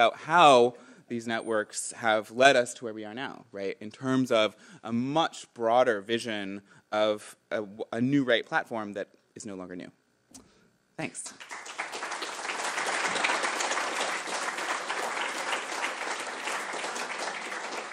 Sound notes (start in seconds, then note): 11.3 applause